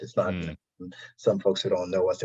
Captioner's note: audio distortion